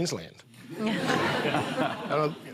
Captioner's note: laughter